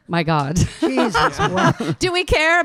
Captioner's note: panel laughing